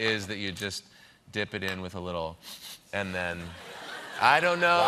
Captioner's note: sniffs